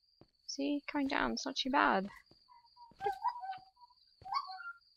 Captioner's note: bird calls